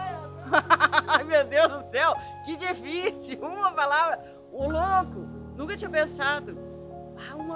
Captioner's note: laughs